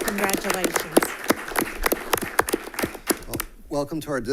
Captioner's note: attendees applaud